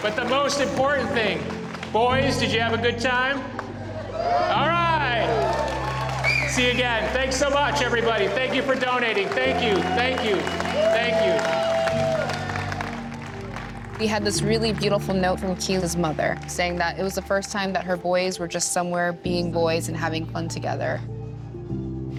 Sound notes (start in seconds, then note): 4.4 people cheering